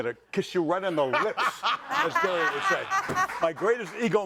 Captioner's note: laughs